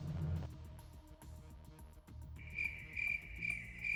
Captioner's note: crickets chirping